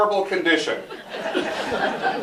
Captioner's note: laughter